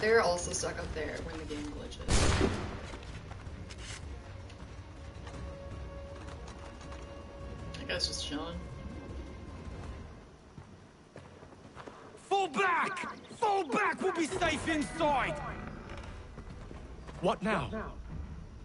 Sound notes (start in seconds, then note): 2.1 gunshot